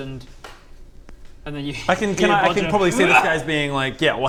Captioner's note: hhrrgh!